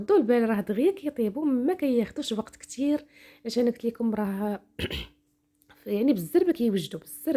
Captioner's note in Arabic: تنحنُح